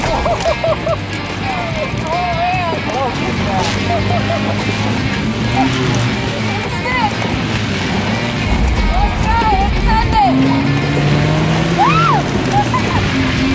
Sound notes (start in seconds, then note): 0.1 laughing & cheering; 4.1 laughing; 11.8 cheers & laughs